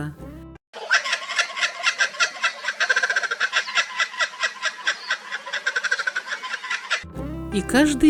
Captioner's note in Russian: звучит хохот кукабарры